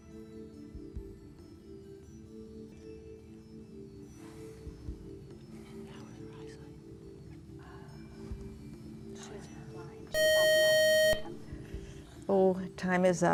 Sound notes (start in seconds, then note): 0.2 whispering; 10.1 buzzer